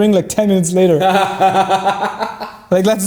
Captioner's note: laughing